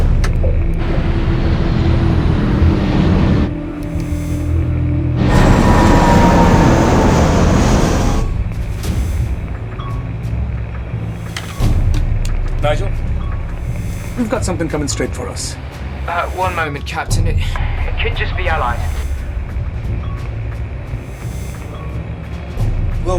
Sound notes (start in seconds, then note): 0.1 click; 8.9 beeping radar